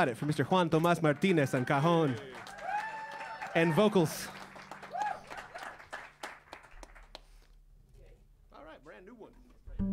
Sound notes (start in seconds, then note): 4.7 cheers and applause; 4.7 saludos y aplausos